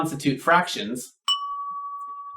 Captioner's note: ding!